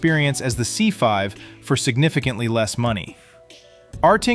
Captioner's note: thoughtful